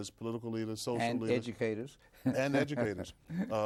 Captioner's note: laughs